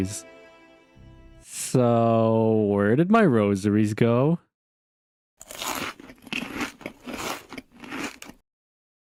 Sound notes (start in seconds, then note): 5.4 Crunch